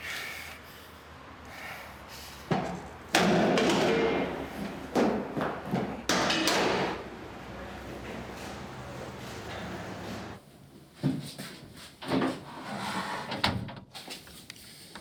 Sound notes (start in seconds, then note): 3.6 metallic noise